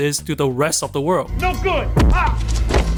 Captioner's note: bonk